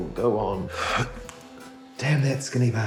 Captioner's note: inhales